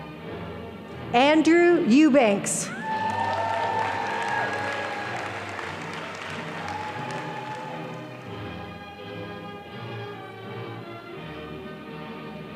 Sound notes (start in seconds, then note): 2.7 audience applauding